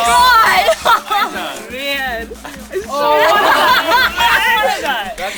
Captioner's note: all cheering